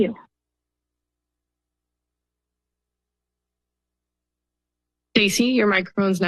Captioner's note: silence